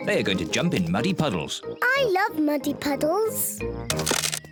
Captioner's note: cracking